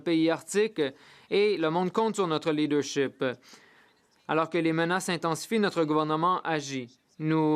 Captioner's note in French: voix de l'interprète